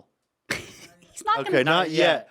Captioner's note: laughs